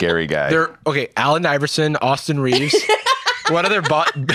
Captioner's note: laughs